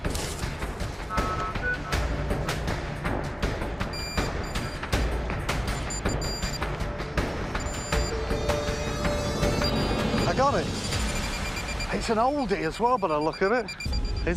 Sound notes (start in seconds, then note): 1.1 beeping; 5.7 rapid beeping